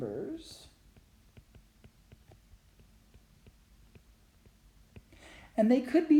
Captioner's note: writing Sounds